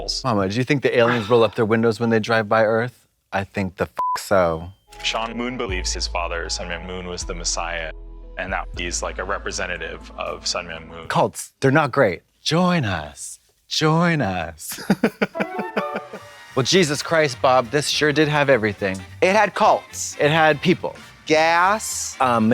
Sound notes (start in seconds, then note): 4.0 beep; 14.7 Katya chuckles; 15.4 bright chime